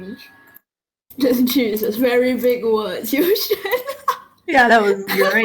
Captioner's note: laughs